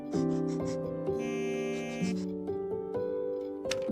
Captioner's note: phone vibrates